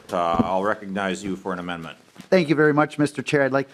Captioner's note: gavel